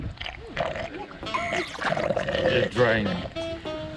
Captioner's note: raw sound of drained water